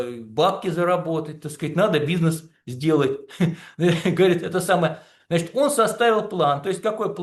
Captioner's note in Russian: смех